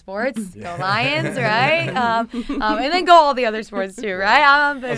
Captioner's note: laughter